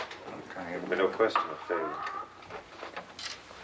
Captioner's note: murmuring